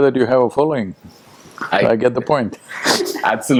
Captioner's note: laughs